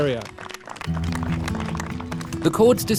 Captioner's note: applause